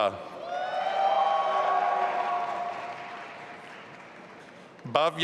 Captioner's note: audience applauding and cheering